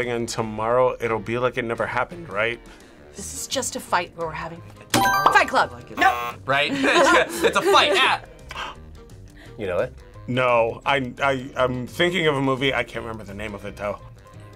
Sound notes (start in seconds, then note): 5.0 buzzer rings; 5.9 buzzer; 7.0 laughs; 8.4 gasps